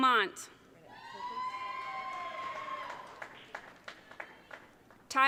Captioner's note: audience cheering